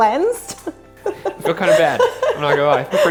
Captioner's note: laughs